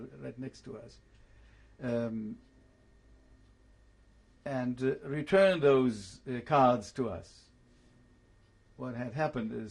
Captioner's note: pauses for 3 seconds